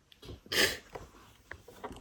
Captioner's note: sniffles